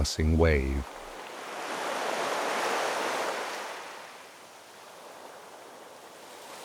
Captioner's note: wind blowing